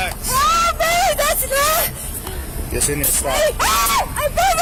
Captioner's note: suspect screaming